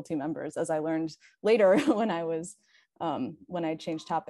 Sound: chuckles

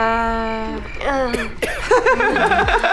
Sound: crickets chirping; laughs

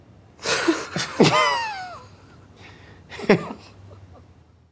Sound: laugh

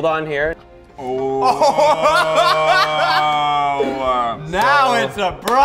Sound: laugh

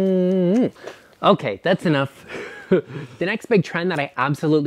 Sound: lips smacking; laughs

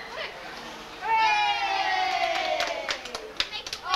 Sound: claps

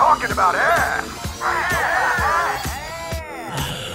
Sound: cheers

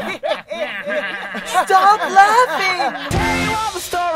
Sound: laughter

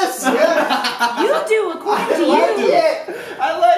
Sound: laughter

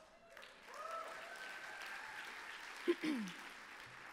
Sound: applause

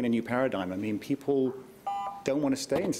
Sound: beep

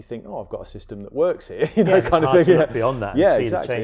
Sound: chuckles

